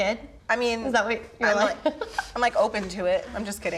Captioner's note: laughs